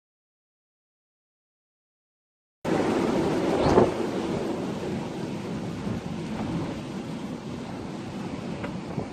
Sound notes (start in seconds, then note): 2.6 wind noise; 8.5 gusty noise